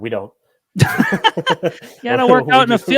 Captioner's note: laughs